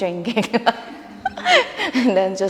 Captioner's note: laughing